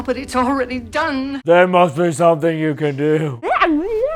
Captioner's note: tired, blubbery voice